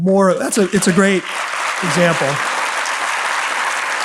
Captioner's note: audience applauds